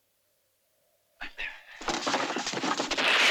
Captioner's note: whispers